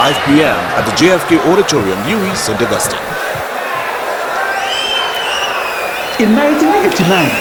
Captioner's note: wild applause and cheering for 22 seconds